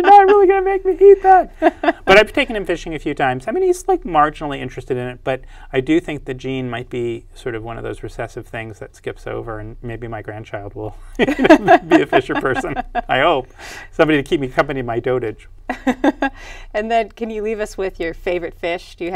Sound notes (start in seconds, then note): 11.2 laughs